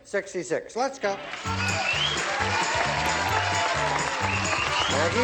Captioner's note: applause, theme music